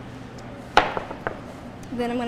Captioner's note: object thuds